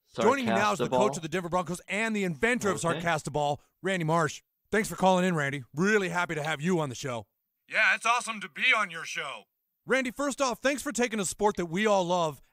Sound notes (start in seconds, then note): none